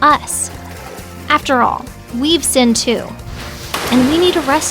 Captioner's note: water flowing; splash